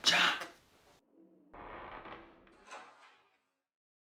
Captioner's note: door closing